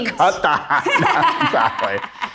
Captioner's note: both laugh